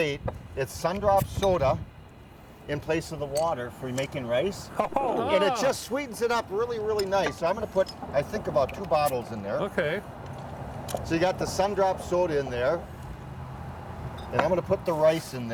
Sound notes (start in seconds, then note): 8.8 bottles opening